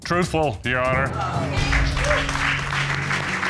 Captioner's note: audience applauding